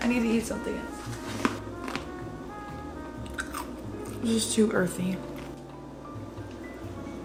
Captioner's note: chews